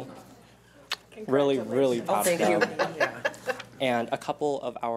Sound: laughing

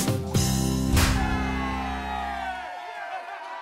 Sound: cheering

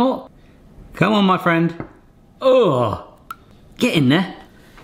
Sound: grunts

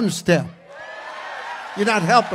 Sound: congregation cheers

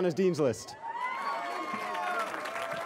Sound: cheering

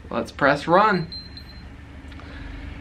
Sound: pump beeping

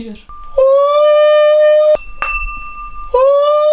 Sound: shouting sound

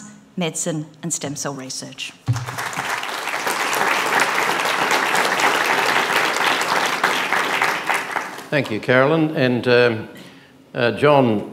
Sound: applause

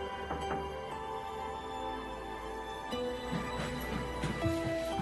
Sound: knocking on door

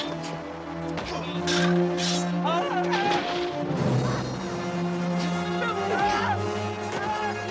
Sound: hitting; yelling; hitting; yelling

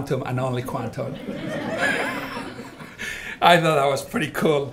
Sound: all laughing

